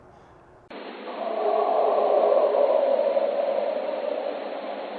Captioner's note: creature vocalizing